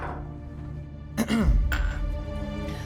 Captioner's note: clearing throat